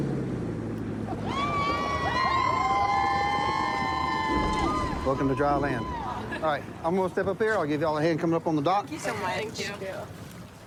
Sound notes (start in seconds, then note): 0.0 laughs; 1.0 cheers